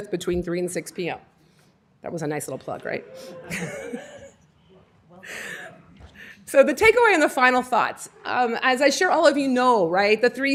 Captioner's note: laughter